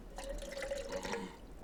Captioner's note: liquid pouring